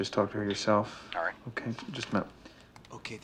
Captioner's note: on phone